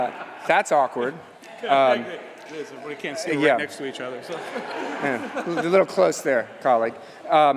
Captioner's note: laughter